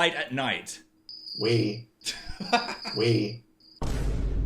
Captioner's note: unimpressed Voice